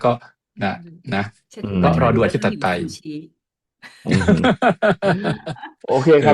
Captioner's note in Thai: เสียงหัวเราะ